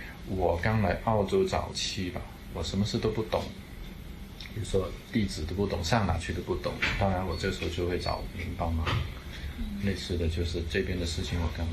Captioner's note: speaking in Cantonese